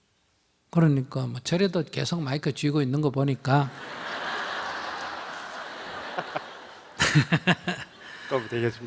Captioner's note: audience/Questioner/ Laughter